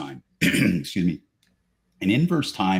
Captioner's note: clears throat